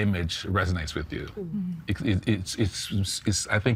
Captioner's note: stammering